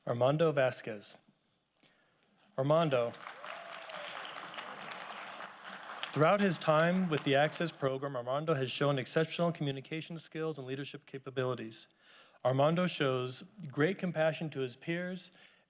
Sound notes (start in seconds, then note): 2.7 audience applauding